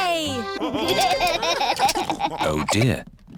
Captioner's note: laughter